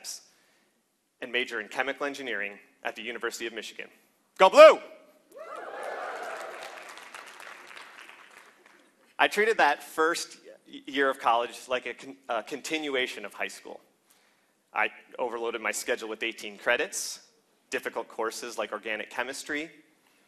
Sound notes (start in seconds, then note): 9.8 applause